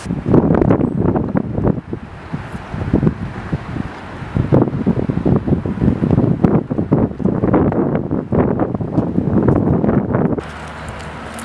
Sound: wind blowing

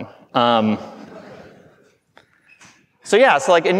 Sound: audience laughing

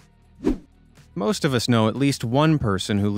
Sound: swoosh

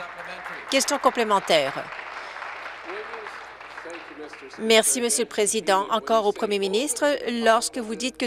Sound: applause

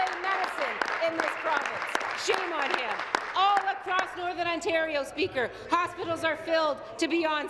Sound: applause

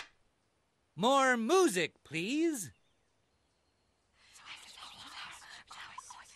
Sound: whispering

